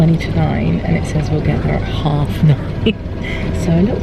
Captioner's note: laughs